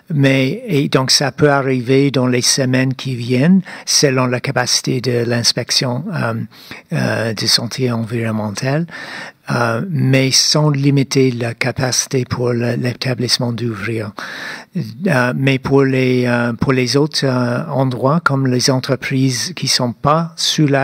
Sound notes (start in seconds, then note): 9.3 speaking French